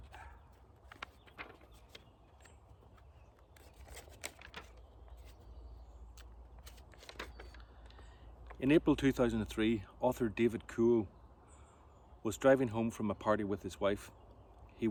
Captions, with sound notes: (dog barking) (pages crinkling) In April, 2003, author David Kuhl was driving home from a party with his wife.